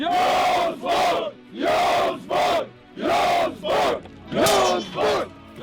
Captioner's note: all chanting